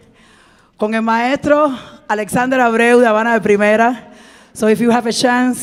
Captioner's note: speaking in Spanish